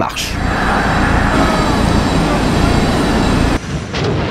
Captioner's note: jet noise